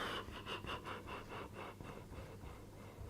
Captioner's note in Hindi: हांफने की आवाज़